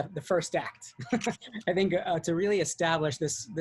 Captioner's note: laughs